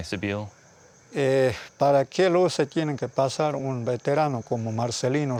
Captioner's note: speaking Spanish